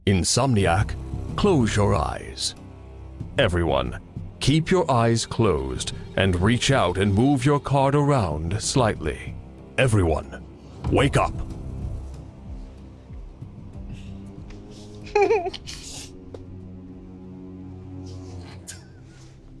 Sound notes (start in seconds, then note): 13.8 dramatic music; 14.8 giggles